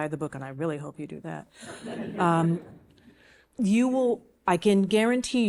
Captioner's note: audience chuckling